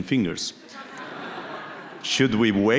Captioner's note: audience laughing